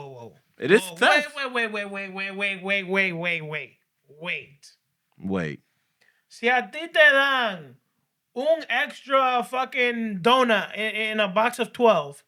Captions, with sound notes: no, no, no, no, no, no, no. It is theft. Wait, wait, wait, wait, wait, wait, wait, wait, wait. Wait. (Non-english Speech) One extra fucking donor in a box of 12.